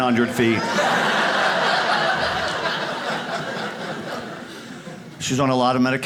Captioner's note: audience laughs